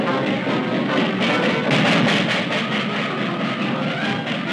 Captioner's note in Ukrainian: поїзд пхкає